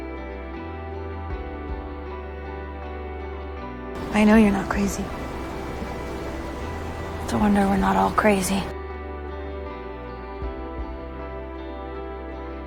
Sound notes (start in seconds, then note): 4.1 voiceover; 7.5 voiceover